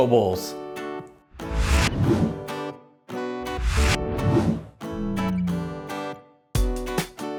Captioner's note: air whooshing; bright music